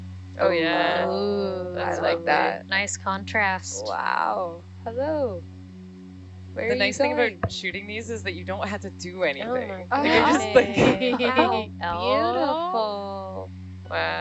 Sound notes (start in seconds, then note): 0.5 group exclaims; 9.7 group giggles and chatters